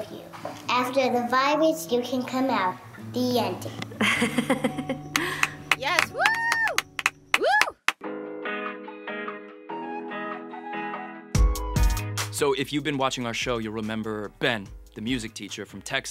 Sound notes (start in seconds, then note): 3.9 woman laughs; 5.1 clapping